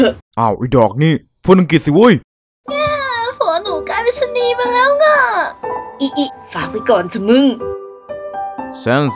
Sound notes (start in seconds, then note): 3.0 cryyy